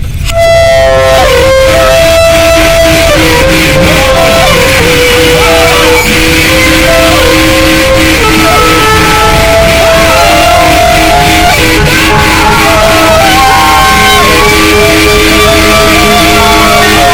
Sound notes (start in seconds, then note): 0.5 horrible screeching; 3.0 screaming